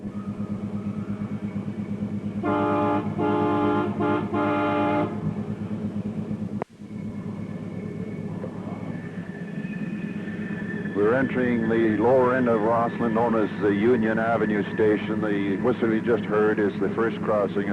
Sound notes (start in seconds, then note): 0.3 train Whistle; 6.8 sound of train moving